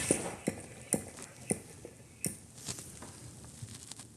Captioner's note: globe spinning